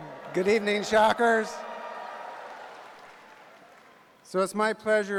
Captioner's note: cheers and applause